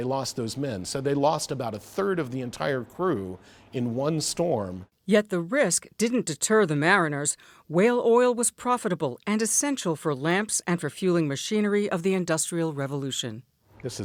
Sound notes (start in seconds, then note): 5.7 voice-over